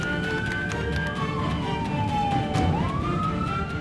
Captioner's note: sirens